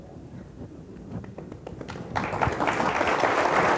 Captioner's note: applause